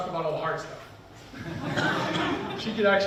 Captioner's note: people laughing